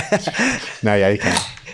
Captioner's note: laughs